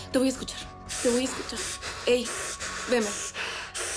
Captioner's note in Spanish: Braulio jadea